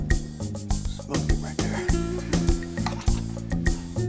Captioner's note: whispering